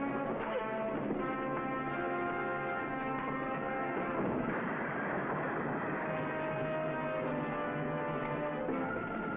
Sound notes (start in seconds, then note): 3.5 crash booming; 6.1 suspenseful music